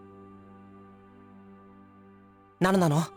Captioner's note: silence